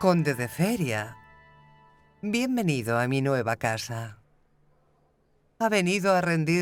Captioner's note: Elizabeth speaks in a foreign language